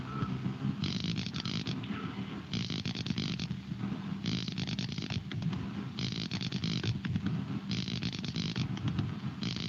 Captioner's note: beeping